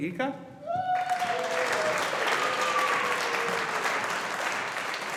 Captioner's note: audience applauding